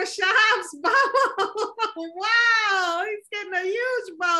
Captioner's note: laughs